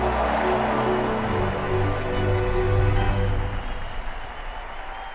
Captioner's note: cheering